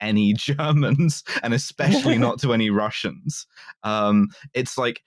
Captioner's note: laughs